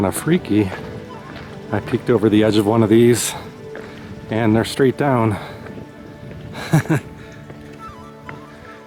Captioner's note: laughs